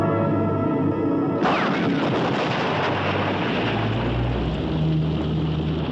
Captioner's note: dramatic music; rocket blast